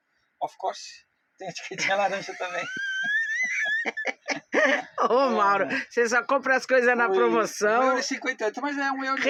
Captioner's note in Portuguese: risadas